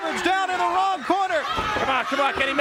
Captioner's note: crowd chatter